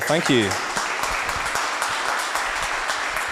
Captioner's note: applause